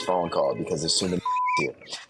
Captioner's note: beep